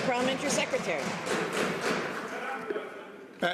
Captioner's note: some Applause